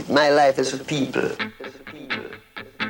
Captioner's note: echos